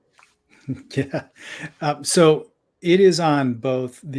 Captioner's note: laughter